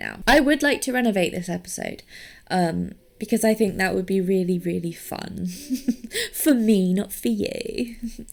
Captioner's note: laughs